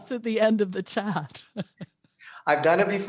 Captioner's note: she laughs